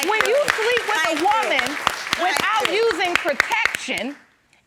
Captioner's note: audience applauds